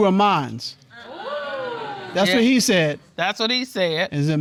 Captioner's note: audience exclaims